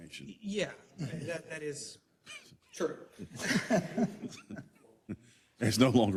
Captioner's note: laugh